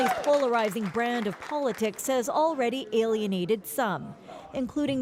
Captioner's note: applause